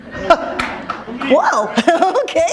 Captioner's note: laughter